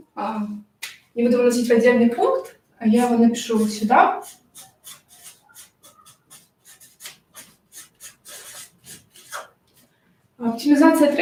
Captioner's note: marker scratching on paper